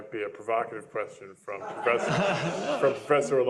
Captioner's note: laughter